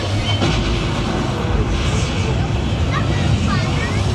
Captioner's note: barrels exploding